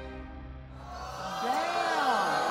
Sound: audience gasping

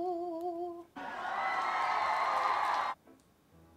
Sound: applause

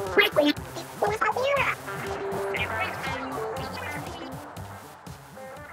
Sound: talking

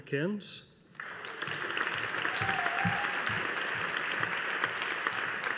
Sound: audience applauding

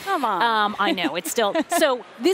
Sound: laughter

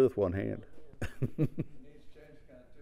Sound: laugh

